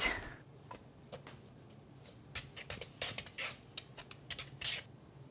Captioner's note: very soft thuds, plastic on plastic scraping